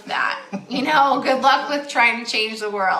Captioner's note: laughs